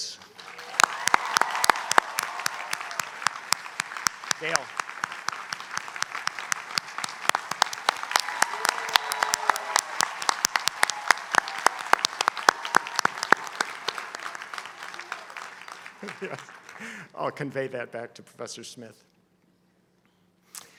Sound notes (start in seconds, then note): 8.5 applause; 10.9 laugh